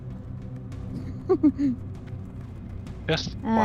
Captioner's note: laughs